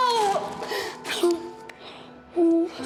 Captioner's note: sobs